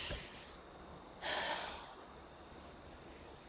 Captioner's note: sighs